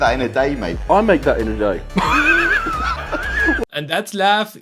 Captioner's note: weird Laugh